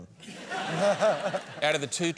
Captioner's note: laughs